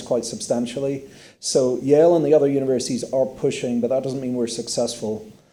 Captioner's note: none